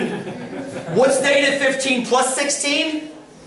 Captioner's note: laughter